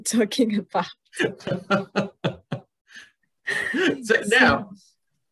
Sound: laughs

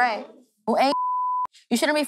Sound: beep

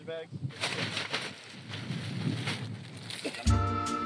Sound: bag rustling

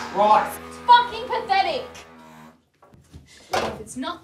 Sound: sink grinds

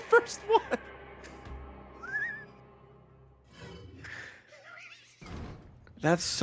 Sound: laughs

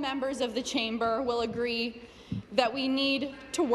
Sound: none

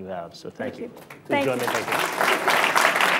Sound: applause

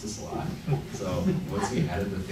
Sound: light laughing

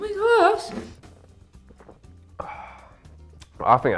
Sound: glugs; exhales deeply

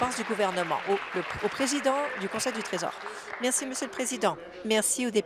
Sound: applause

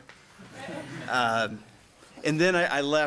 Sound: laughing

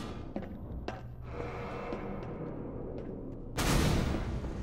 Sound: sirens in the distance

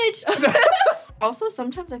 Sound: laughs

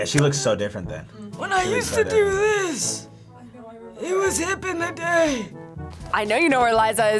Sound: raspy

